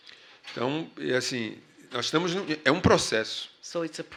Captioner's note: speaking portuguese